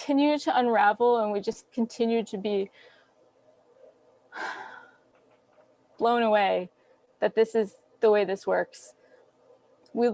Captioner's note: sigh